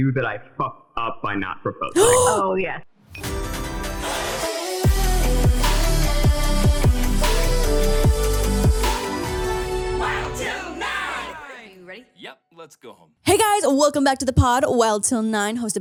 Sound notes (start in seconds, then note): 1.9 gasps; 3.2 upbeat music